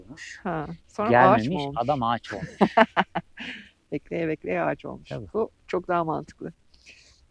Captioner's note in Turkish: kahkaha